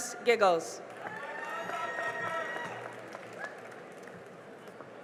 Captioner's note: cheering and applause